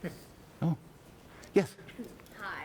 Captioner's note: voiceover